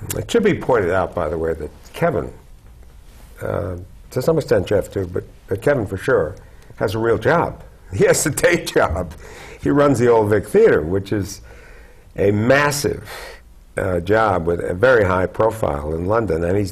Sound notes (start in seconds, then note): 8.3 chuckle